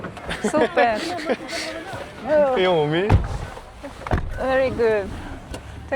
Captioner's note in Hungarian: nevetés